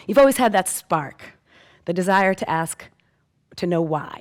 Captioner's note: none